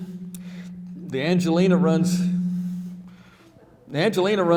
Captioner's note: microphone humming